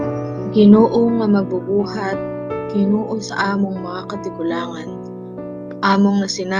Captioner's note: person speaking in foreign language